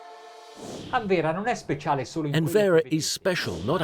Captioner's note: speaking in foreign language